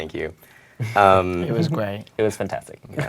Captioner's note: laugh